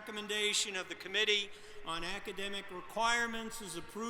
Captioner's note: applause